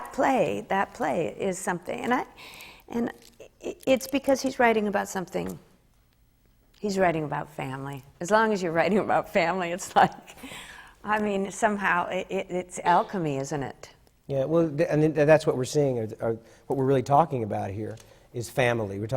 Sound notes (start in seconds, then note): 9.8 laughs